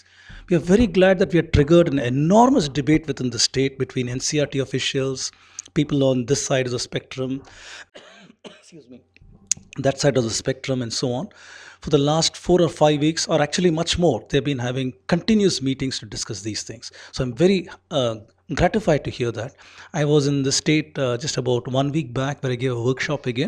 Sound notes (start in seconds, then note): 7.9 coughing